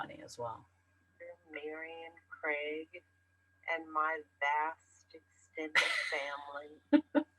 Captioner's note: voiceover; laughs